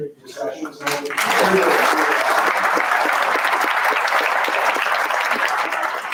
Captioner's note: round of applause drowns